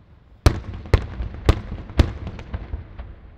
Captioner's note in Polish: odgłosy fajerwerków